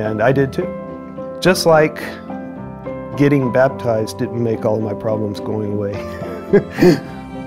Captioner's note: chuckles